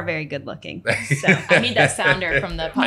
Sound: laughing

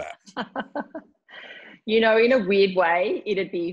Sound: laughs

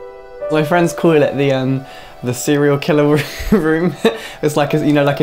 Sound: laughs

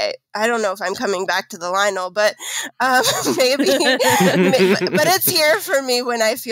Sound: laughing

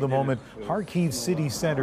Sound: speaking Foreign Language

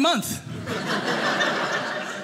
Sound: audience laughing

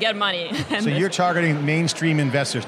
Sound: chuckles

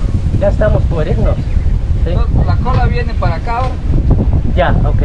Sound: speaking in Spanish

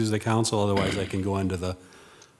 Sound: attendee clears throat

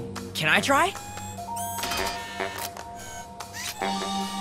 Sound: mechanical whirring

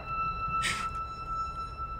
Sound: gasping

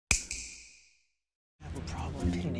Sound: snap

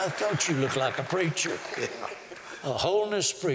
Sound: laughter

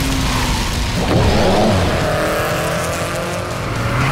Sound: revving

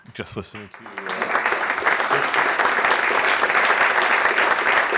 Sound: attendees applauding

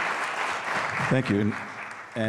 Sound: applause

